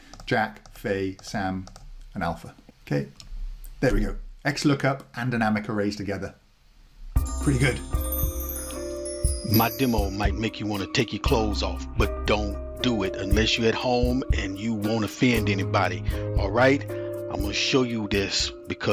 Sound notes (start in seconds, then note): 7.2 bells chiming